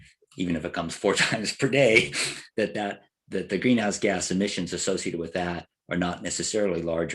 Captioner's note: laugh